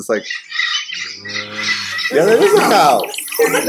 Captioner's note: birds screech and cow moos